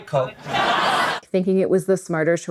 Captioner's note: screams